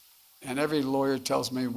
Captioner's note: none